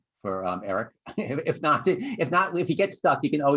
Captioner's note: laughter